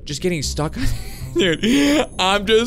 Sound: laughs

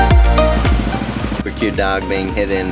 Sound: motorbike engine running

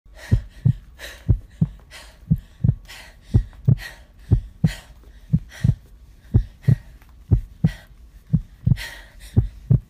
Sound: breaths and heartbeat

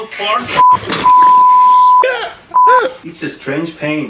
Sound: beep beep beep; laugh

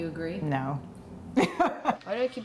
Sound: laughs

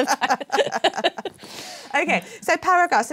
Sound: laughter

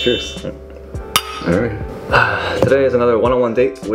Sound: cups clinking; sighs

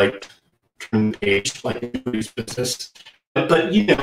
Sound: distortion

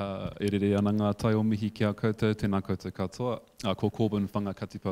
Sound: speaking in foreign language

